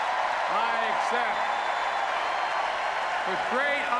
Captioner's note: applause